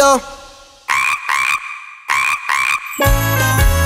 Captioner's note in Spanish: Sonido de sapo